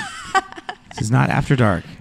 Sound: laughter

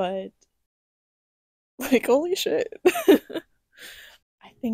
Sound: laughter

